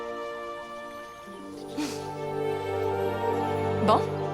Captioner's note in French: Naomi se racle la gorge